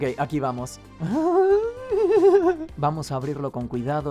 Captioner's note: Jack giggling